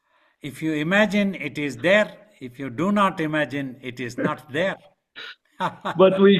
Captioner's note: laughing